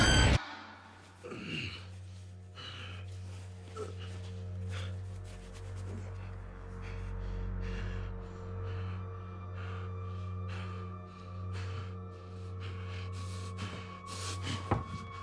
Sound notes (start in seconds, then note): 11.6 taking deep breaths